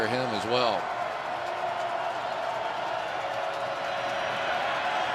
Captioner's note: crowd cheering